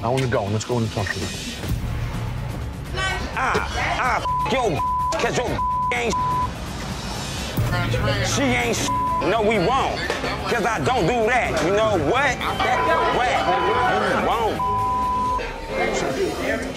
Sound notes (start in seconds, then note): 5.4 beep; 8.7 beep; 13.0 crowd chattering